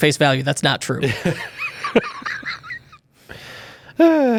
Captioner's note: laughs